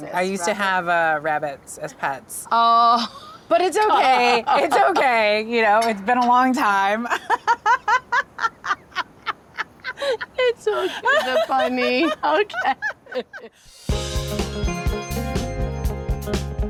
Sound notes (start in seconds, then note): 7.0 both laughing; 13.7 upbeat music